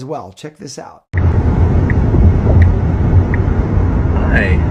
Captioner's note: car engine buzzing